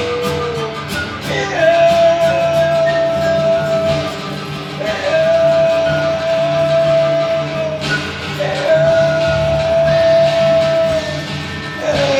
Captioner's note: humming